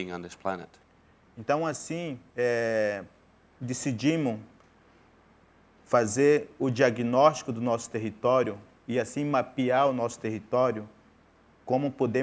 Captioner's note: speaking in portuguese